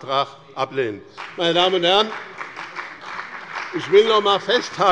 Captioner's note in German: Beifall bei dem BÜNDNIS 90/DIE GRÜNEN und der CDU